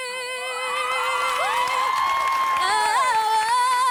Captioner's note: applause